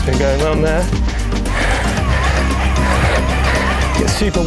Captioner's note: wheels whirring; heavy breathing